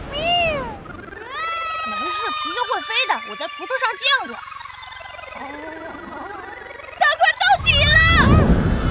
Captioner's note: ahhhh